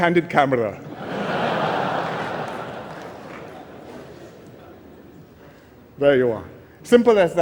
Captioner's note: laughter